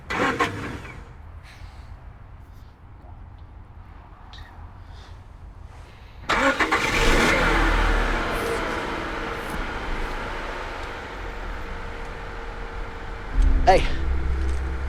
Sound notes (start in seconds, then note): 0.0 engine rumbles; 6.4 engine roars; 13.9 voiceover